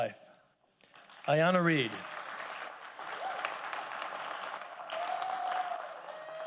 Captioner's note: audience applauding